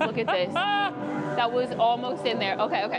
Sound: laughs

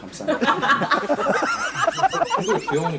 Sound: bursts into laughter

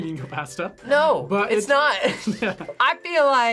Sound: laughs

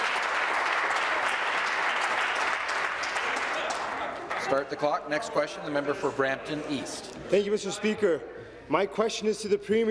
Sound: applause

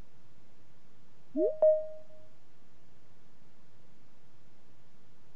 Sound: digital chime

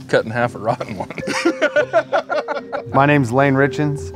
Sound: all laugh

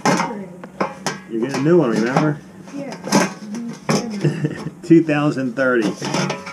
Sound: laughs

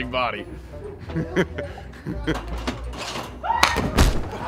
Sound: laughter

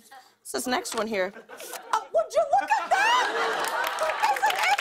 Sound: laughter

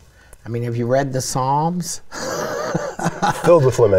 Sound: laughing

